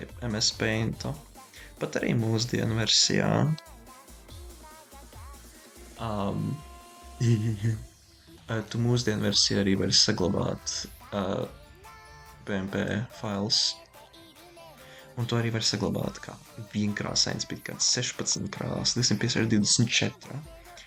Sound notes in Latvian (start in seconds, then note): 7.2 stulbi smiekli